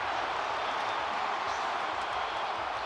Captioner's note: crowd cheering